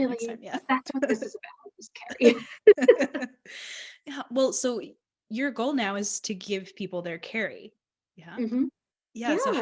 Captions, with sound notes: - Really, that's what this is about, is Kerry. (both laughing) - Well, so, your goal now is to give people their Kerry. - Mmhmm, yeah!